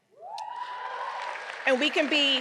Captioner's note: audience cheering